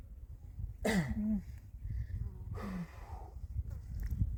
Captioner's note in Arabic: تنحنُح